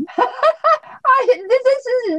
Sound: laughs

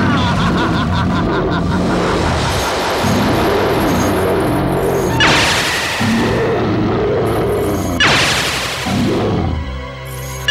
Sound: grunting

